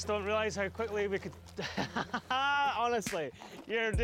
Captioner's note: laughing